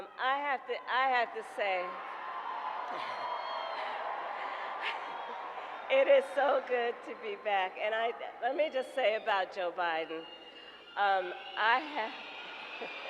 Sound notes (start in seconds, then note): 3.9 applause; 5.6 laughs